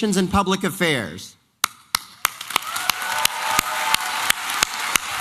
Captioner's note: applause and cheering